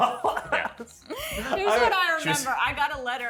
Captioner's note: group laughs